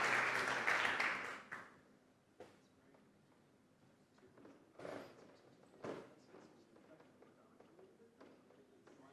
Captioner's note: applause